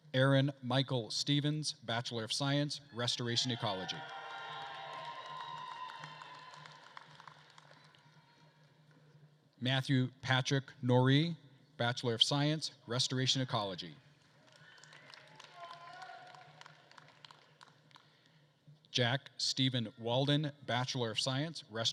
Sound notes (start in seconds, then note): 3.4 attendees cheering and applauding; 14.4 attendees cheering and applauding